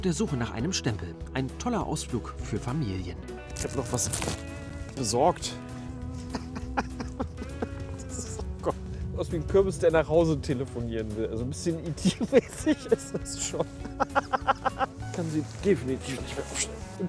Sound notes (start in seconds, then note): 6.1 laughs